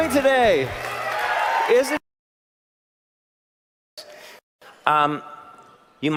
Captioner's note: เสียงปรบมือ